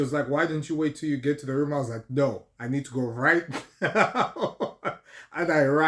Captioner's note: laughter